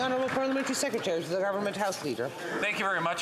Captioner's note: applause